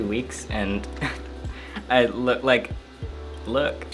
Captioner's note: chuckles